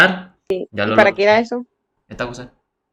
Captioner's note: Spanish